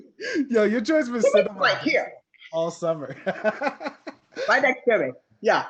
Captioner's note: participants laugh; laughs